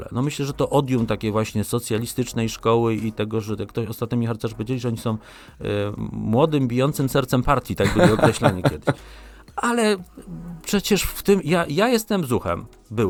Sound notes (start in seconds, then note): 7.8 śmiech